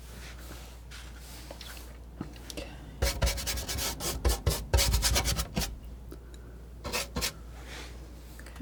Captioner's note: scratching